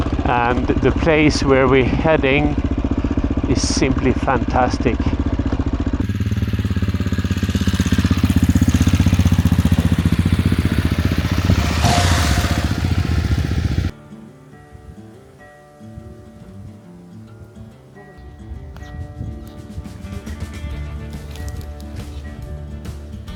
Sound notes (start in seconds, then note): 5.0 engine roaring; 14.3 gentle music